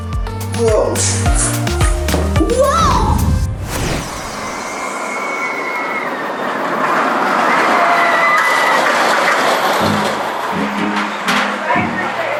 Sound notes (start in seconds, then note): 0.4 making sound effects; 3.6 roller coaster whooshing; 9.8 suspenseful music